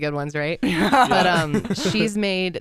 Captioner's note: laugh